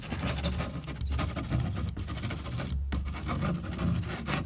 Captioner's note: scratching